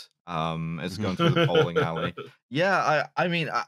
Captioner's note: laughs